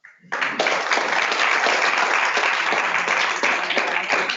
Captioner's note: audience clapping